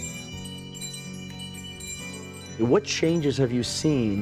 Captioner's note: bells ringing